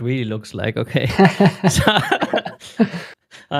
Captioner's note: laughter